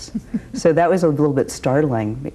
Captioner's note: laughs